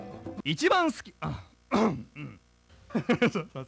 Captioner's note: cough